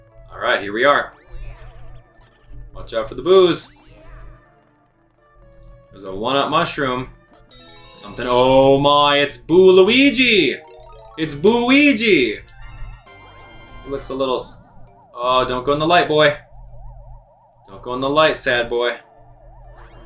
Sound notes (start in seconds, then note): 12.4 game sounds; 12.4 instrumental music